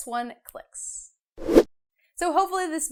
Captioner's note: frame whooshes